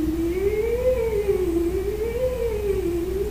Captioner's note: humming